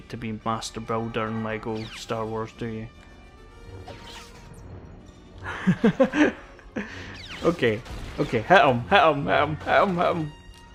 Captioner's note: laughs